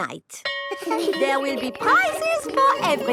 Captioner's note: school bell rings